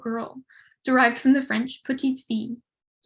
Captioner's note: speaks in French